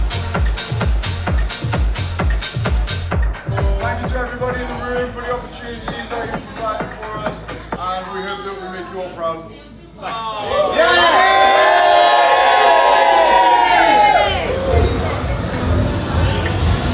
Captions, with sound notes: - Thank you to everybody in the room for the opportunities that you've provided for us and we hope to make you all proud, thank you. (crowd cheering)